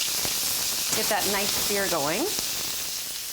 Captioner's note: meat sizzles